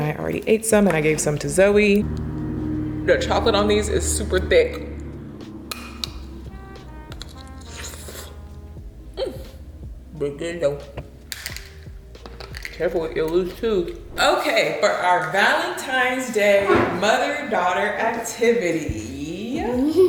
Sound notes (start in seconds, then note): 7.1 chocolate crunches; 11.2 chocolate cracks